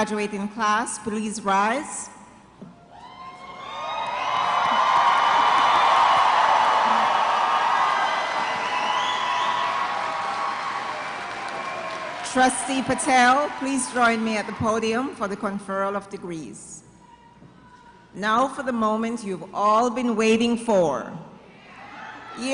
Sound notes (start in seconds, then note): 3.0 cheers d applause